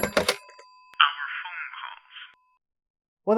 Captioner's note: voice on phone